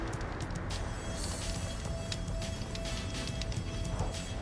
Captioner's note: fire crackling